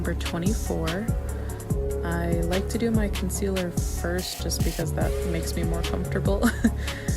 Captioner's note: giggles